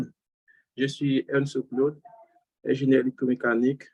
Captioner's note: non-english speech